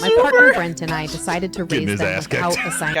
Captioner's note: crew laughs